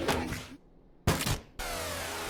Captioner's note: skull crack